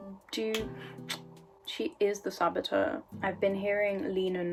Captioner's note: tongue click